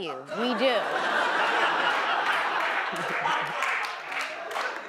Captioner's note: audience laughs